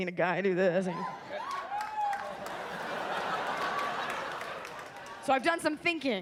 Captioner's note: audience laughs and claps